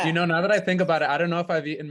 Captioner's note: all laughing